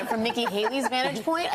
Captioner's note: laughter